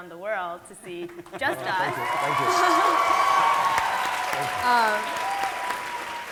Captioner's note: audience applauding